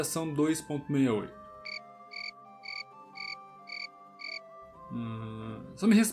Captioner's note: cri cri